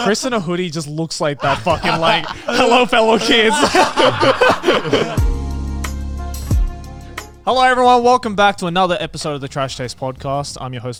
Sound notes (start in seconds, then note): 0.0 laughs; 4.0 all laughing; 5.3 moderate music